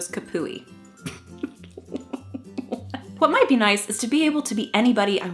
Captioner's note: laughing